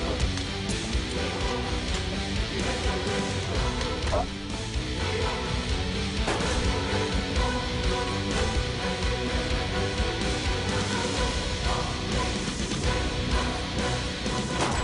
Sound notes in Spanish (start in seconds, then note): 6.2 Disparos; 14.5 Disparos